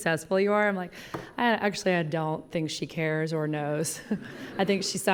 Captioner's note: laughing